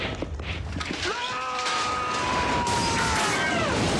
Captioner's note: screams